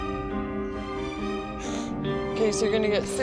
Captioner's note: sniffles